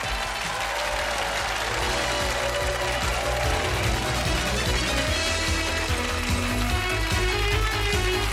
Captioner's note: applause